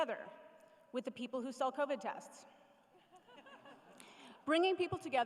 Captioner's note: laughter